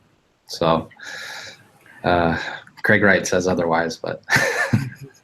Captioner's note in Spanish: risas